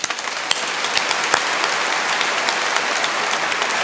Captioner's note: applause